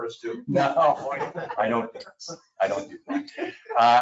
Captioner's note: people chuckle